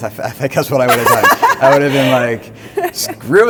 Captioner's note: laughs enthusiastically